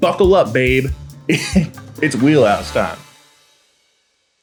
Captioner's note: laughs